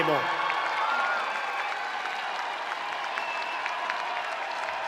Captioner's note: spectators applauding